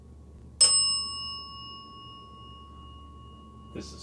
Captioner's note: bell dings